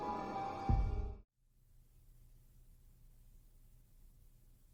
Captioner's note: silence